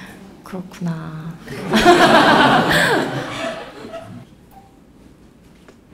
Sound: questioner/Audience Laughter

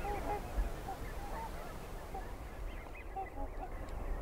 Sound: swans honking

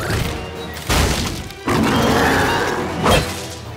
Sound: roaring

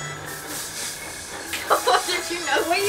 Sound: laughs

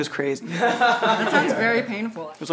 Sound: people laugh

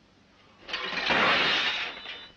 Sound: breakfast tray falls

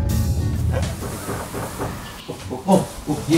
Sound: knock knock

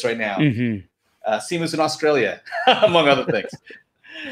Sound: laughing

